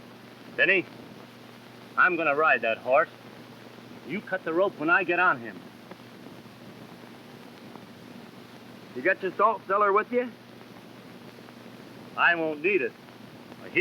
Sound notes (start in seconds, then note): none